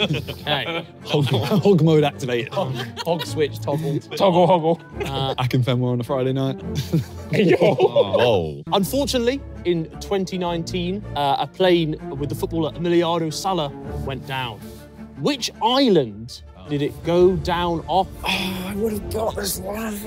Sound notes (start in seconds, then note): 6.8 laughing